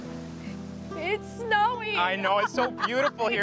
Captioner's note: laughs